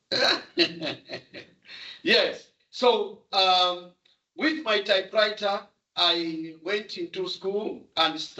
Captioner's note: chuckles